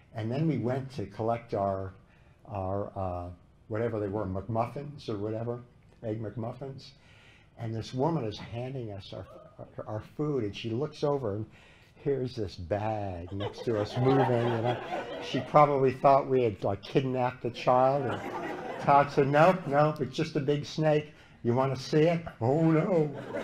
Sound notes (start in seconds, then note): 13.3 laughter